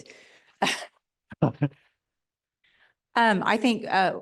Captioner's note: laughing